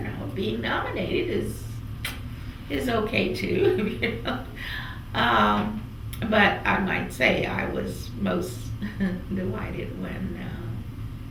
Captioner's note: laughs